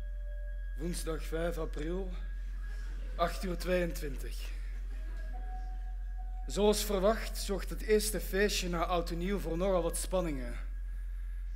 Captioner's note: with a Flemish accent